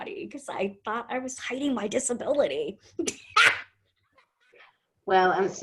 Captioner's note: laughs